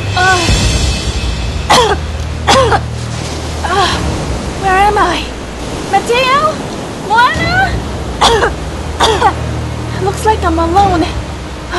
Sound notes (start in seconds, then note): 1.6 cough cough; 8.1 cough cough